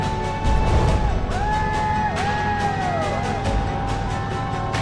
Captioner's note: cheering